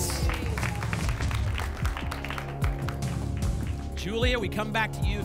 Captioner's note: applause